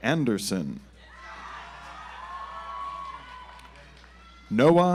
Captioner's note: audience applauds